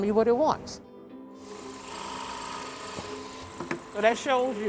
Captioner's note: drills whirring